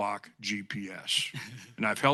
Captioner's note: chuckling